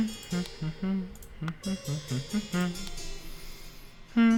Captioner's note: hums